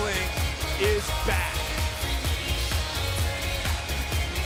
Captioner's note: crowd cheering